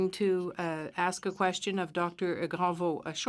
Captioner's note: speaking in French